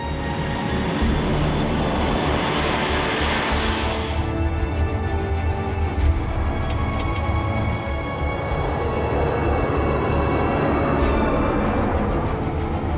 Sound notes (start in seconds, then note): 9.1 takeoff sound